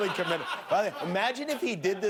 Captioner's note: laughter